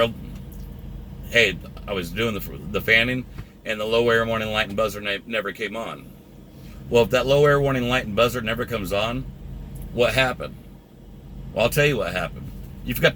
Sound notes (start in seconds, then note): none